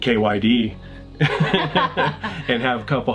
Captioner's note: laughing